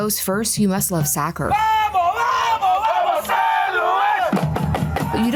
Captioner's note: crowd chanting